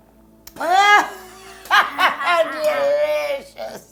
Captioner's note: both laughing